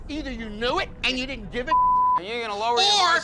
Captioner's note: beep